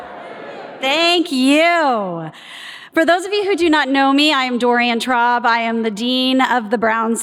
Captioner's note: audience responds louder